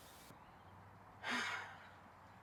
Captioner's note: sighs